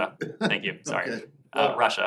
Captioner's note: laughter